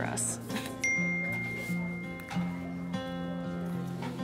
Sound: phone chimes

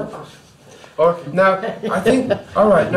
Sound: laughs

